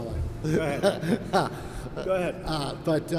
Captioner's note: laughs